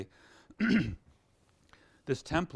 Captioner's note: clears throat